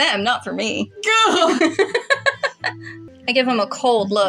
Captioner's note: laugh